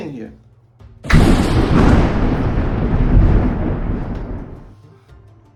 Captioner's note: ominous thunder